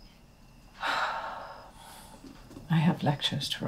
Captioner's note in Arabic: تنهدات